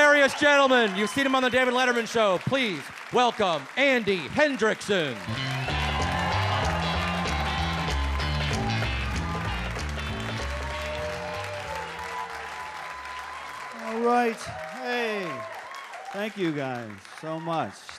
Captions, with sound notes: Hilarious gentlemen. You've seen him on the David Leman show. Please welcome Andy Hendrickson. (funky upbeat music) (audience applauds) - All right. Hey, thank you guys so much.